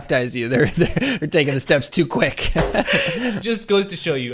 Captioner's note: laughs